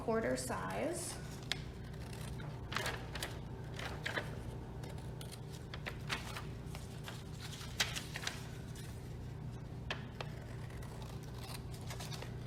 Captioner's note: cutting sounds